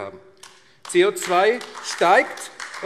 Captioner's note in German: Beifall AfD